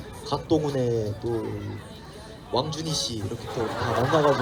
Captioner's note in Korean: 웃음